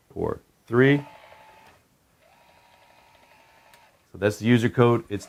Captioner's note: lock whirring